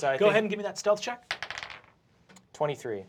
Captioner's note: die rolls